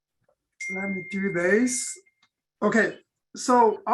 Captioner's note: bell dings